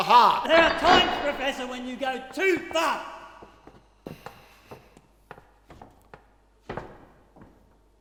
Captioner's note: metal slide of a door lock being unlatched